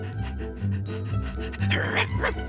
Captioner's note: barks